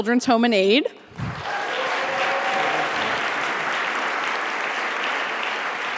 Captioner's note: audience applauding